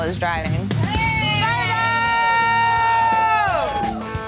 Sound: cheering

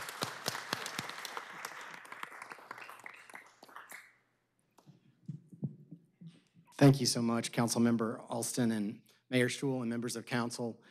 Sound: applause

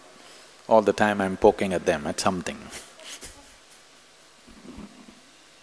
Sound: laughs

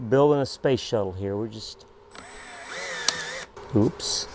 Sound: drill whirring

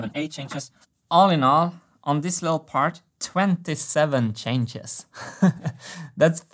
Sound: chuckles

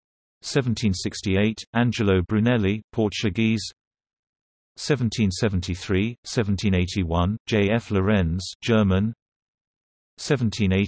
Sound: German

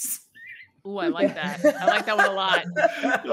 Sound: group laughing

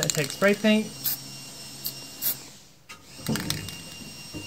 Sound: sprays

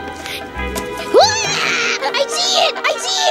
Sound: screaming

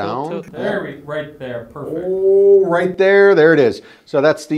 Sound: exclaiming

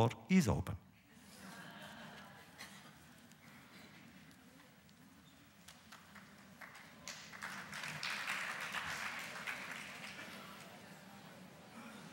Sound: audience applause; laughter

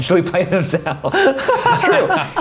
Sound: laughing

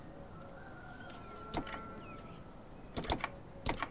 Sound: rooster whistle; telegraph sound

